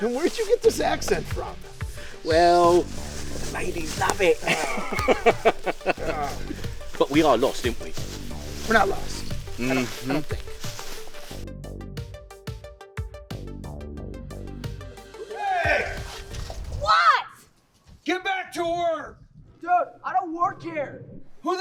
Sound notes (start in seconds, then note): 4.4 laughing; 11.4 tense music